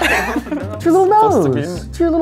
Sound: laughs

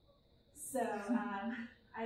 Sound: laughter

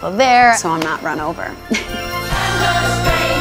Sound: chuckling

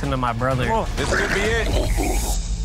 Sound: hot sauce gurgling

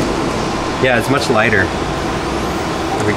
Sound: light digital whirring

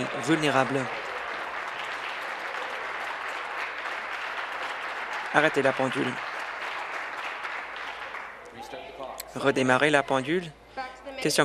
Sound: applause

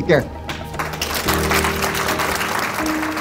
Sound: applause

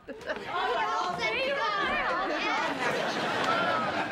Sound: children talking excitedly

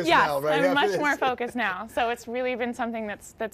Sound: laughs

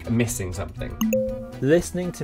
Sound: bell dinging

